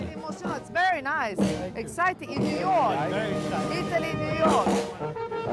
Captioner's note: speaking in English